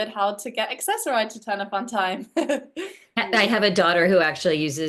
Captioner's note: laughs